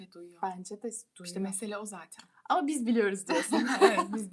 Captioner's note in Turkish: kahkaha